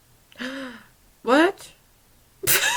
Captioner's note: gasp